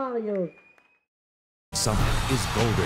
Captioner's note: applause